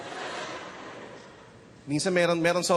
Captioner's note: audience chuckles